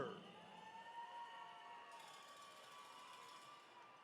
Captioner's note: attendees cheering